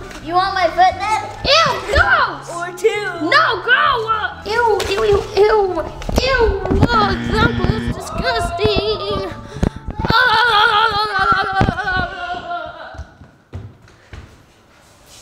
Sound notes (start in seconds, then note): 9.7 shouting